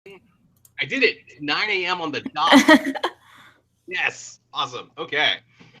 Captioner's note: laughs